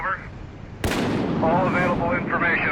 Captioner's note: gun bangs; thunder claps